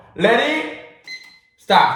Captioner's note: beep!